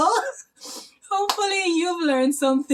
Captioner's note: laughter